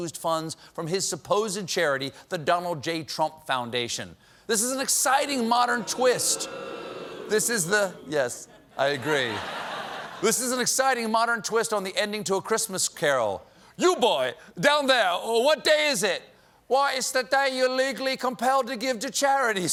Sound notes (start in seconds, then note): 12.6 as scrooge